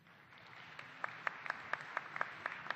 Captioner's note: applause